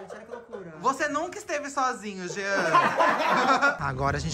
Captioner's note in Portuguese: risos